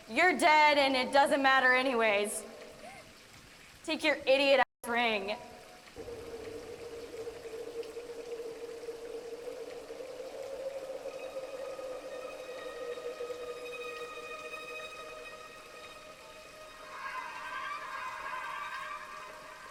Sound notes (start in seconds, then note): 5.9 water splashes; 8.5 ominous music